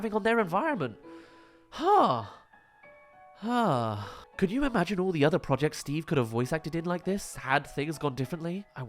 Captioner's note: sigh